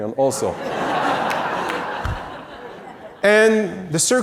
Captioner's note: audience laughs